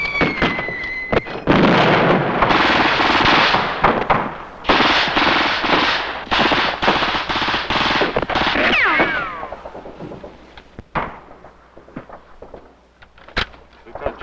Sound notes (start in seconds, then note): 5.1 explosions booming; 5.1 missiles whistling; 9.1 explosions booming; 9.1 guns blasting